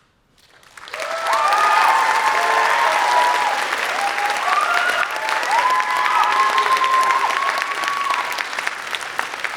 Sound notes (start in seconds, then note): 0.4 applause